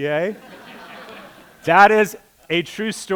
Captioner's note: laughter